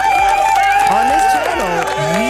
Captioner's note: cheers